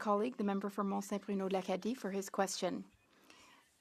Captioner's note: speaking French